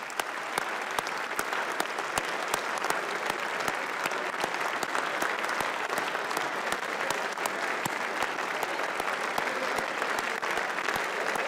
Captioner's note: applause